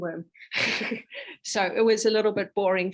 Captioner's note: chuckles